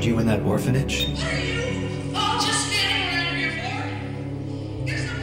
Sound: voiceover

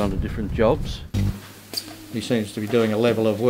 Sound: machinery noise

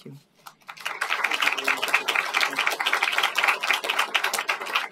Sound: applause

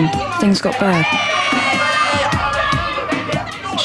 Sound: baby screaming & commotion in background

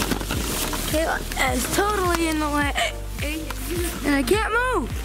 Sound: hiccups

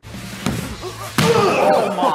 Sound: grunts as he hits the volleyball

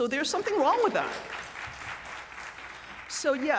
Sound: applause

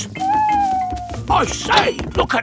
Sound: owl hooting

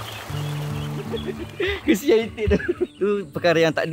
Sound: laugh

